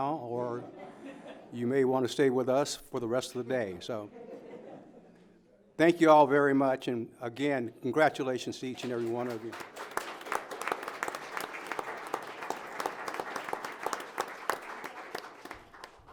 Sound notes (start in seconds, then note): 8.7 audience applauding